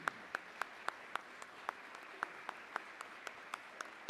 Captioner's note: applause